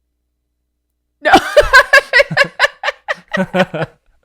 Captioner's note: laughs hysterically